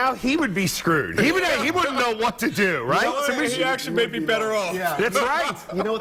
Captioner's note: laughter